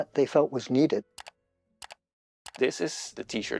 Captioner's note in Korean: 클릭 소리